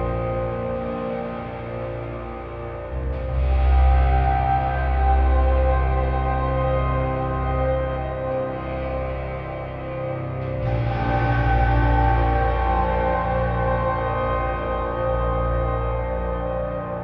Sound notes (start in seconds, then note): none